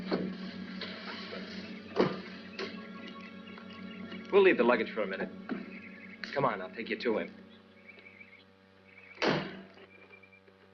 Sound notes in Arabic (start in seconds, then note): 0.1 يُفتح باب السيارة ويُغلق; 9.2 يُغلق الباب